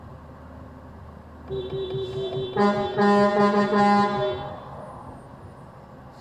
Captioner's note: honking party!!!